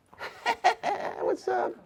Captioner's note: laughs